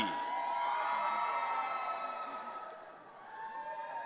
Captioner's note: audience cheering